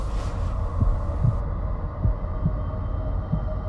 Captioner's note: heart beating